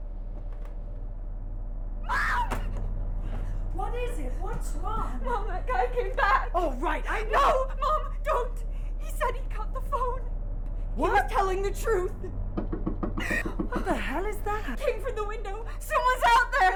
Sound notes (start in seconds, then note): 12.5 knocking on window; 13.2 Tina gasps